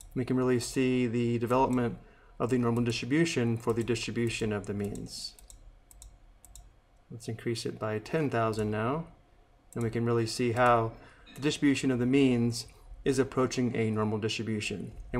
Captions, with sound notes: And we can really see the development of the normal distribution for the distribution of the means. [clicks mouse] Let's increase it by 10,000 now, then we can really see how the distribution of the means is approaching a normal distribution.